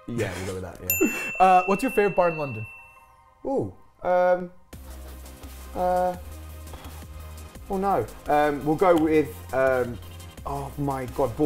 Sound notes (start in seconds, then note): 0.9 bell dings